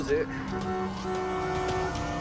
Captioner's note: honking